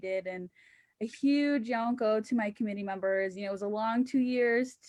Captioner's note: speaking indigenous language